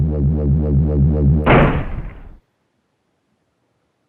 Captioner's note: loud impact